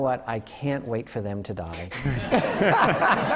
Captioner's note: laughter